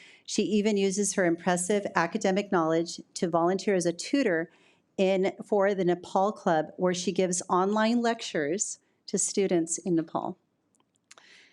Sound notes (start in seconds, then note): none